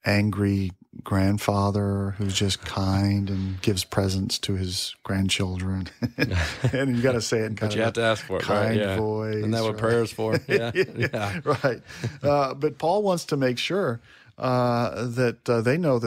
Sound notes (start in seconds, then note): 6.0 laughs; 9.5 laughs